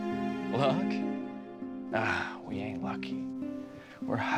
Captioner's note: scoffs